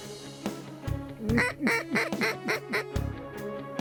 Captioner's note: duck calls